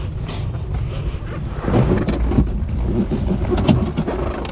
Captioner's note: shuffling